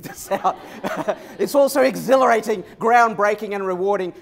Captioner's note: laughter